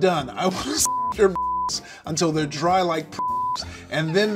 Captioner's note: beep